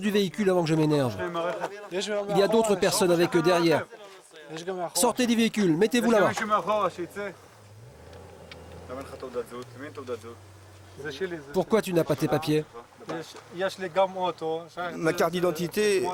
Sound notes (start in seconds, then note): 10.1 Hebrew spoken audio